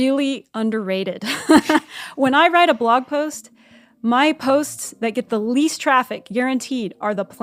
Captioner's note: laughs